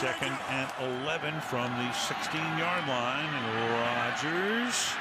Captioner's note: cheering